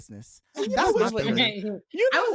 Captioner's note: laughing